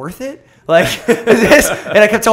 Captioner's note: laughter